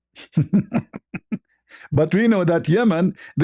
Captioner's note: ketawa